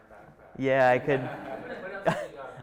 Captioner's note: chuckling